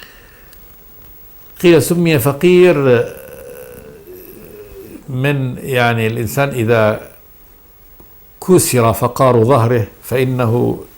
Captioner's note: in Arabic